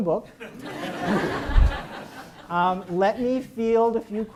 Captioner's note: audience laughs